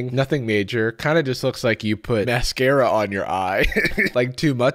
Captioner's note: laughs